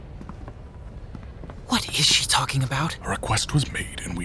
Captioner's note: intense whispering